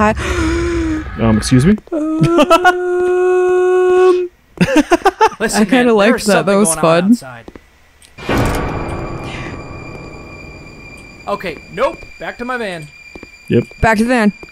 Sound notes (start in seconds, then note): 0.2 gasps; 2.0 laughs; 4.6 laughs